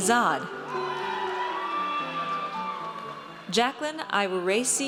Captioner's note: audience cheers